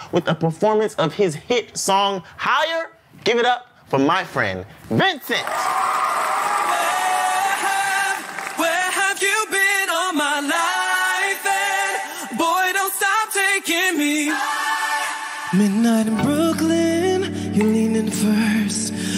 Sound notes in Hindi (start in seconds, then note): 5.4 ताली